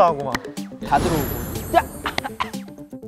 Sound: coughing

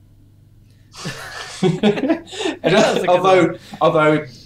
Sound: laughter

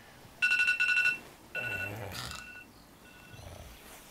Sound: alarm clock

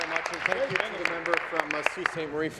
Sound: applause

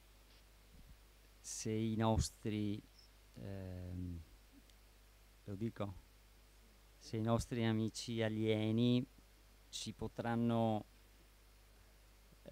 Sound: Italian speaking

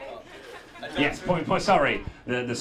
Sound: audience laughing

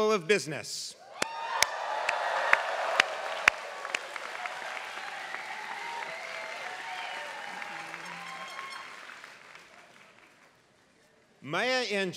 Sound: applause

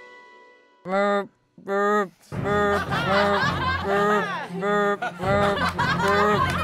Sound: whooping; laughing

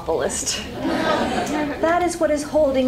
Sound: laughter

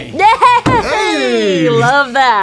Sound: laughs

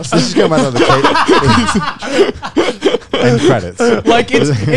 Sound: everyone laughs

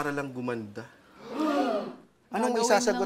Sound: gasps

